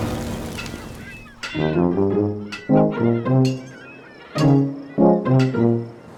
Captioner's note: hammer Banging